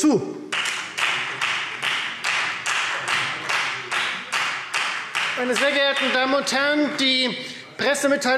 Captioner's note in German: Beifall Freie Demokraten